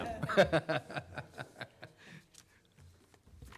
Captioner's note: laughs